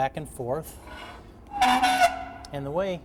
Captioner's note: metal scrapes on metal